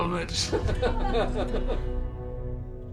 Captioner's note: all laugh